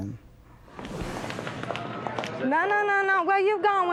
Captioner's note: footsteps